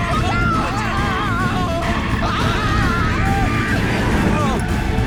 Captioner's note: Tariq shouting